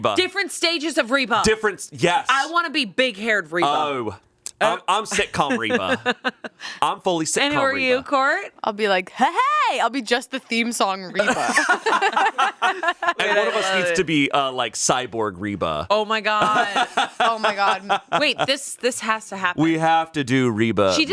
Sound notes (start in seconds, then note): 11.1 all laughing